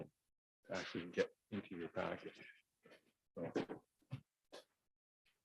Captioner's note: faintly speaking